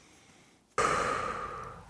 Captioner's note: exhales